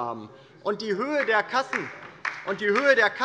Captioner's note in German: Beifall bei der LINKEN